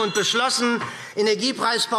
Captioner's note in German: Unruhe – Glockenzeichen